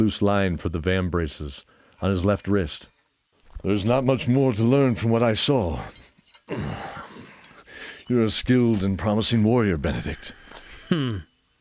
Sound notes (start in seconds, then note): 6.4 small grunt; 6.4 sigh